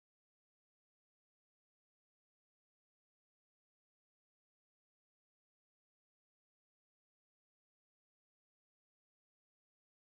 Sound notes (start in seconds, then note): none